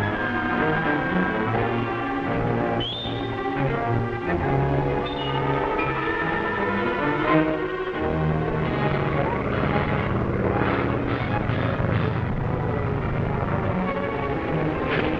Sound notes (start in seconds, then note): 9.8 plane engine whirring